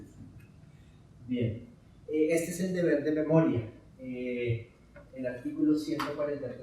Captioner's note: speaking in Spanish